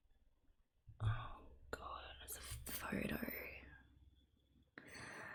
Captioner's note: whispers